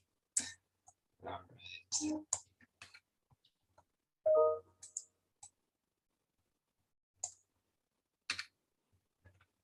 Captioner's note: notification sound